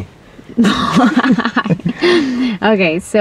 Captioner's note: risas